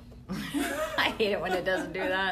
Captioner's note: laughter